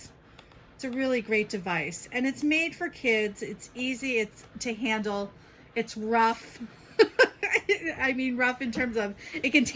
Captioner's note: laughs